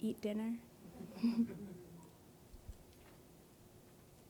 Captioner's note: audience laughing